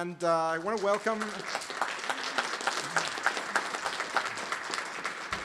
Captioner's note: applause